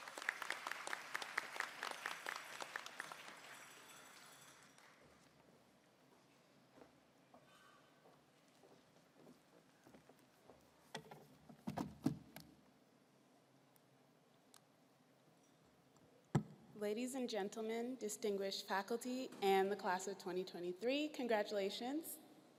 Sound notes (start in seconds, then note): 4.7 applause